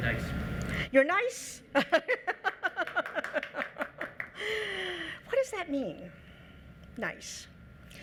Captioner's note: laughs